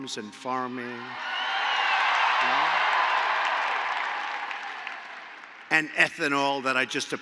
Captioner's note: applause